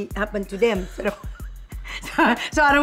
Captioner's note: laughs